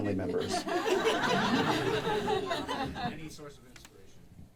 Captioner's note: audience laughing